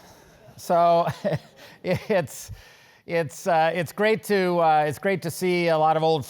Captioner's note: laugh